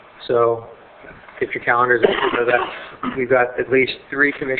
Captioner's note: cough drowns out speaker